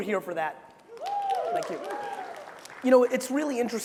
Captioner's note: crowds cheering